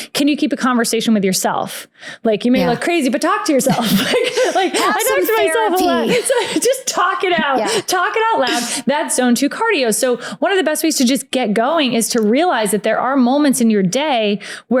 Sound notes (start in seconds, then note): 3.2 laughs